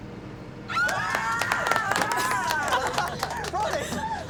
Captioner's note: all cheer and laugh